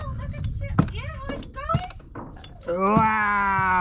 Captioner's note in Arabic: يتحدث الهولندية